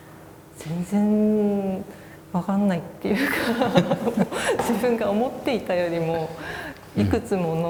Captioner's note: laugh